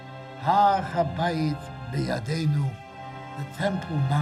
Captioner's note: speaking foreign language